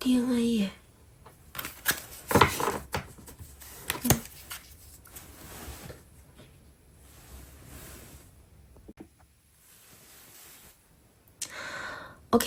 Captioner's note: drawing cards